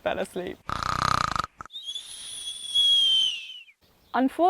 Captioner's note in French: Ronflements